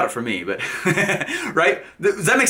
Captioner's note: laughs